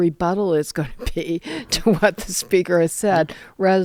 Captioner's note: laughter